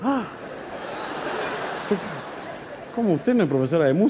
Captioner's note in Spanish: Risas